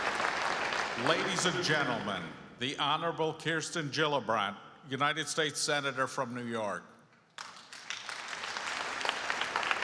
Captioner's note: applause